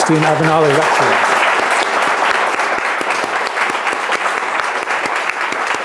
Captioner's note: audience applauding